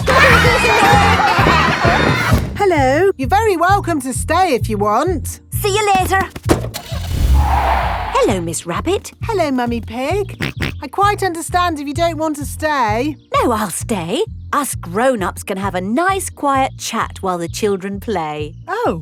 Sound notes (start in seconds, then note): 0.8 laughter; 6.5 car starting; 6.6 tires screeching; 10.6 snorts